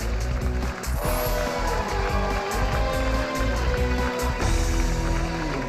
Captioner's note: cheers and applause